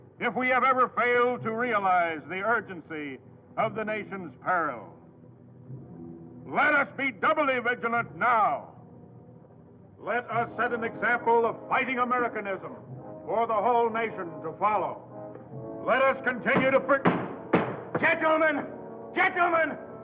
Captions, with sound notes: if we have ever failed to realize the urgency of the nation's peril, let us be doubly vigilant now. Let us set an example of fighting Americanism for the whole nation to follow. Let us continue to... (hammer thudding) - Gentlemen, gentlemen!